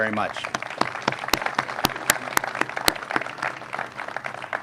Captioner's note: crowd applauds